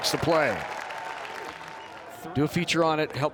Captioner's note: crowd applauds